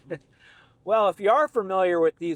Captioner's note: laughs